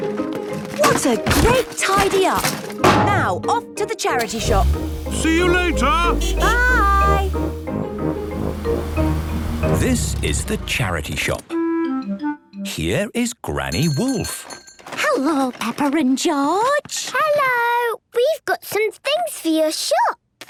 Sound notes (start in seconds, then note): 4.2 honking; 13.8 bell jingling